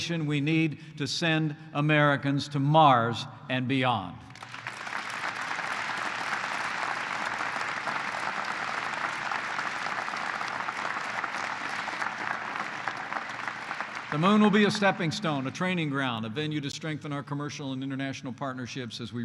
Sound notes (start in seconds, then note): 4.3 applause